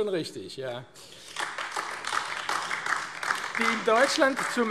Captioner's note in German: Beifall AfD